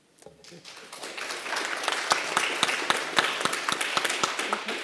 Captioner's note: attendees applauding